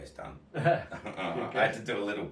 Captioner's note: laugh